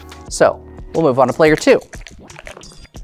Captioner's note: dice rattling; dice rolling